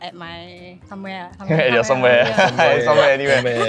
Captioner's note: laughs